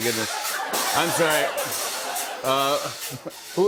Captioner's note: laughter